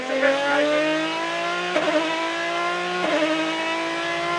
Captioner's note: engine roaring